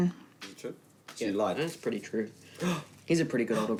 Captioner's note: gasps